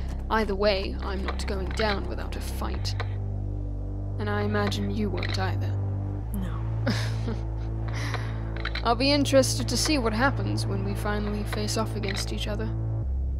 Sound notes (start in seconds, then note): 6.8 Oliver laughs